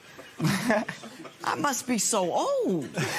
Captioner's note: laughs